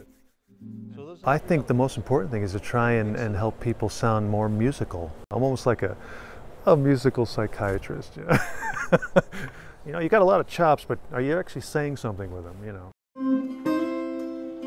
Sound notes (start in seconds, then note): 8.3 laugh